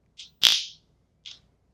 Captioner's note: zap